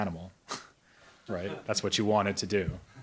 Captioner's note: chuckles